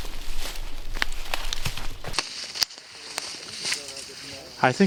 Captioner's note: brush cracking